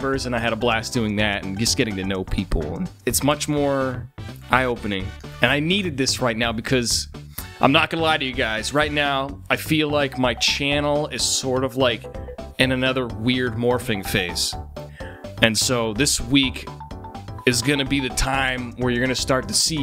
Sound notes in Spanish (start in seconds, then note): none